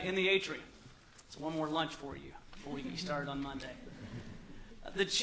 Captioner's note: laughter